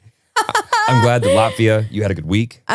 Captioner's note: laughing